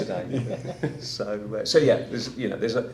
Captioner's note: laughing